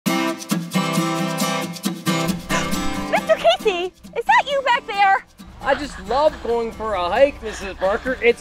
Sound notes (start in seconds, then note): 0.0 upbeat music begins; 2.2 gasp